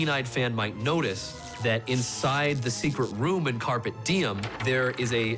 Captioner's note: electricity crackling